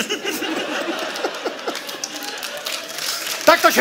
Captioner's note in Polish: śmiech